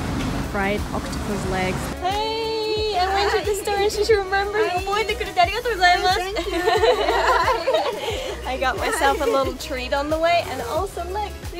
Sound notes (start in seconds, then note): 4.9 japanese; 6.2 laughter